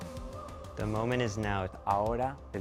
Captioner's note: speaking Spanish